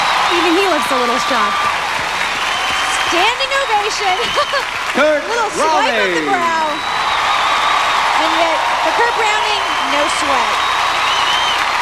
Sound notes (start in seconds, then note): 6.8 applause and cheers